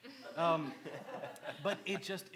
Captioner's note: laughs